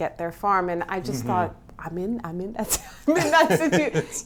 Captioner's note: laughs